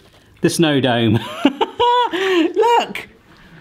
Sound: giggling

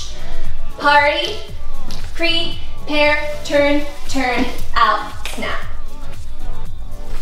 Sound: fingers snap

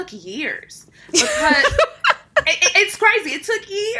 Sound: laughing

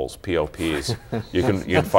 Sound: laughter

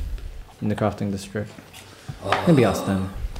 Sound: sighs

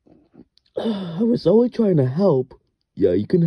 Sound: sigh

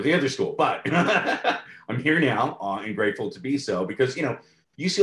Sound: laughs

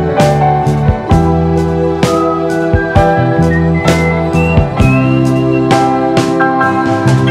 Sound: whistling

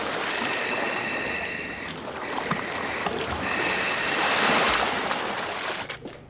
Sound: mask hissing and water sloshing

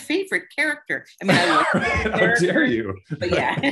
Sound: laughter

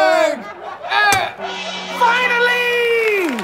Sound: gong ringing

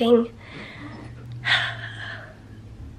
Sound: sighs

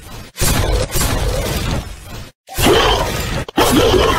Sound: volley of Gunfire; monsters Roaring

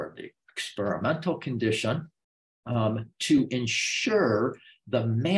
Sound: none

